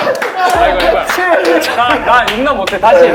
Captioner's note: laughing